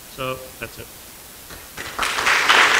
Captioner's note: applause